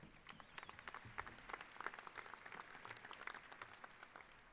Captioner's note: applauding